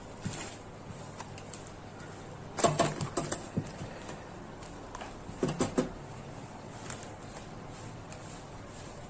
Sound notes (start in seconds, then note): 5.4 knock knock knock